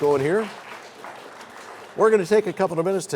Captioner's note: applause